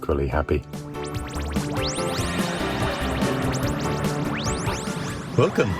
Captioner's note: futuristic beeping sounds